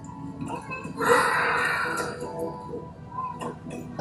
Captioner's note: children yell in play